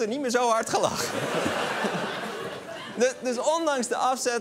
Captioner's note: laughter